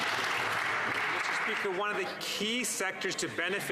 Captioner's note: some Applause